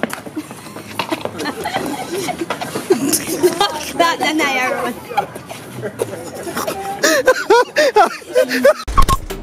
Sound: laugher; laughter

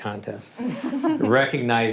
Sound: all laugh

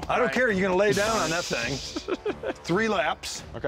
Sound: laughs

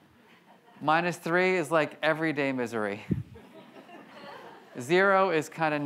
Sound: audience laughs

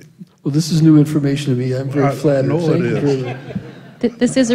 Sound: laughter

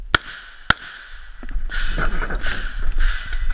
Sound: gun firing

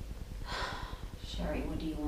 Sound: sighs

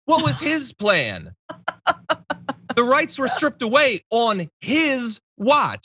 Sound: laugh

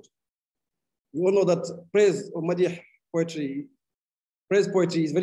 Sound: speaking arabic

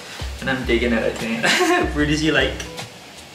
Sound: laughs

